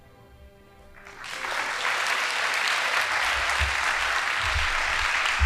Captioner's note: audience applauding